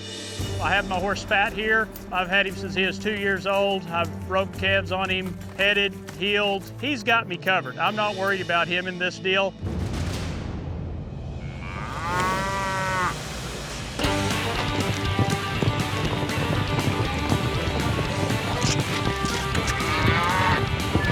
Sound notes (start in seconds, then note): 11.4 steer moos